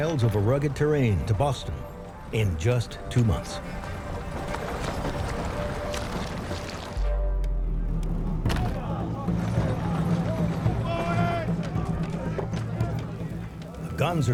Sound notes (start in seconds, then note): 3.5 mud sloshing; 8.4 wood clacking; 10.3 chains clanging; 10.3 men Yelling